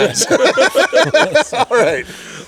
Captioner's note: all laughing